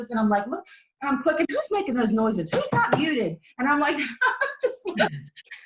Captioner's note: laughs